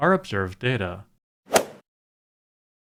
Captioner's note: swoosh